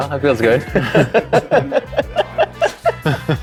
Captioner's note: laughing